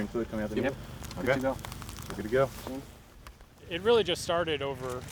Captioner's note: voiceover